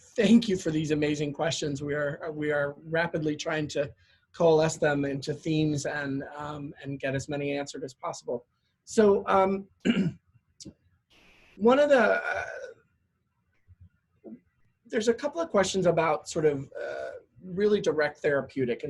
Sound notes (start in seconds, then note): 9.8 cough